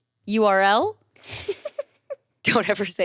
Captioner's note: chuckles